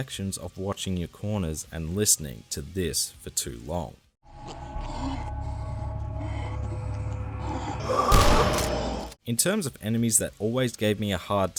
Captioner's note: enemy sounds